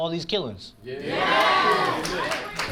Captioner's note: crowd cheers